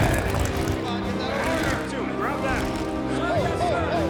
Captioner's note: soldiers shouting